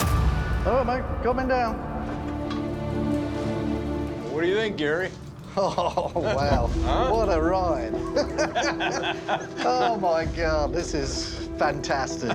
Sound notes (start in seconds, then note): 5.4 chuckling; 7.9 all chuckling